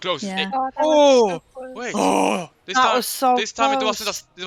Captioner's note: ohhhh